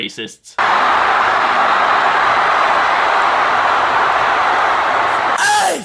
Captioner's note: crowd screaming